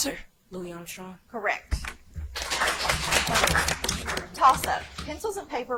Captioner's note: audience applauds